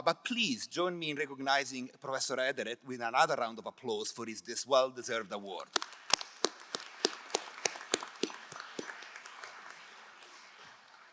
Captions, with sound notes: but please join me in recognizing Professor Ederer with another round of applause for his well-deserved award. (crowd applauding)